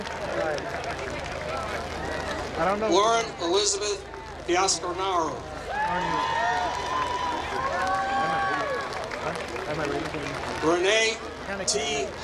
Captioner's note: applause